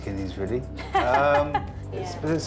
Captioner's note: laughs